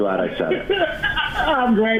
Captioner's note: laughing